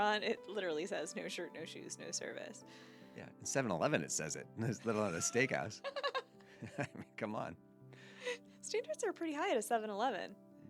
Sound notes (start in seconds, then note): 4.8 laughing